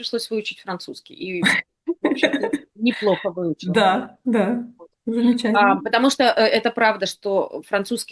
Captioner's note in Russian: смех